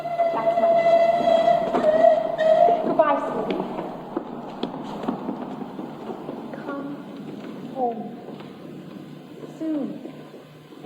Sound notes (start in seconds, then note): 1.2 train whistle; 3.2 train whistle; 4.1 train sounds